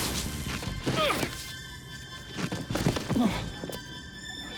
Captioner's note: Rick grunts